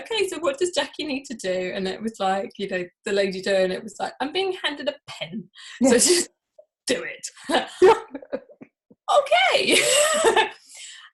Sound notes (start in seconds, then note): 7.5 both laughing